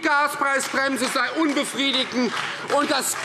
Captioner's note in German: Beifall Freie Demokraten